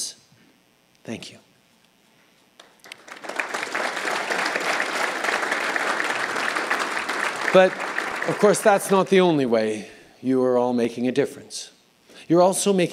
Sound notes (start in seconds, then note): 2.6 applause